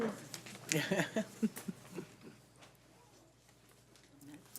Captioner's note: laughing